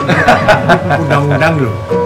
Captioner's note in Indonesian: tertawa